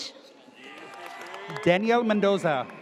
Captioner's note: audience cheers